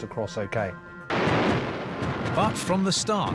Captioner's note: gunfire